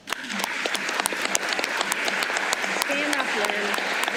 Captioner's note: applause